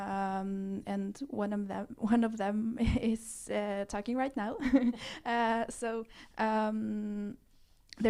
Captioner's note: laughs